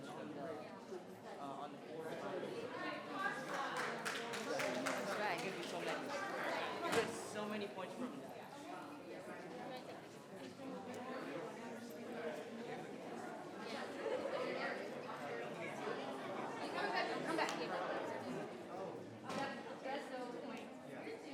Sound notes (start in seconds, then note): 0.1 people chattering; 3.4 members clapping; 7.8 people chattering